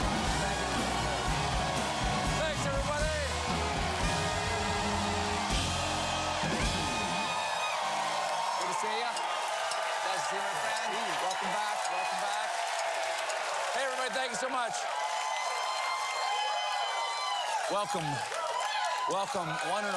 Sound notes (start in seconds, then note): 9.7 cheers and applause